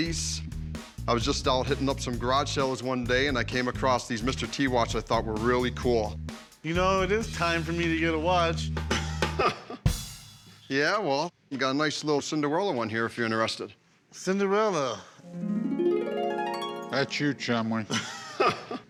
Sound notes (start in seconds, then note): 8.8 laughs; 15.2 harp glissando; 17.8 laughs